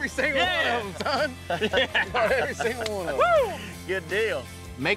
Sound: happy laughter

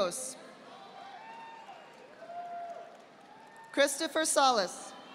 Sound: audience applauding

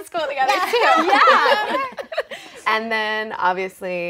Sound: laughing

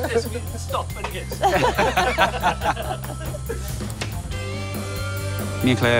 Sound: laughs

